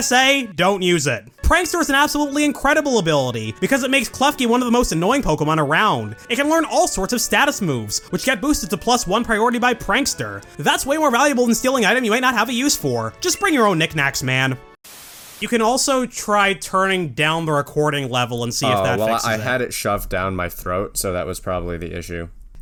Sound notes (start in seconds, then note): 14.9 static